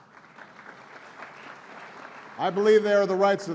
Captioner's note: applause